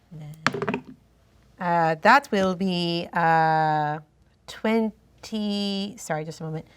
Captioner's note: dice roll